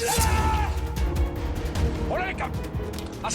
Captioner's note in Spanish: Grito